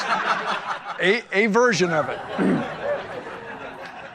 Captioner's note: crowd laughs; BN clears throat